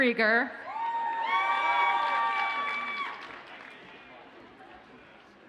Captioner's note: audience cheers and applauds